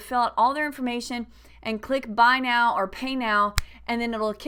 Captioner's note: snap!